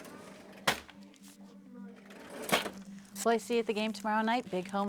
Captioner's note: cash register clinks